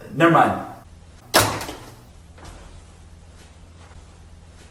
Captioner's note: phone thuds